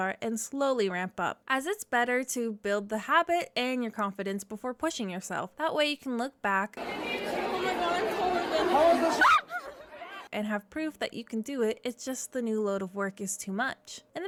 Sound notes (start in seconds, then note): 9.5 screams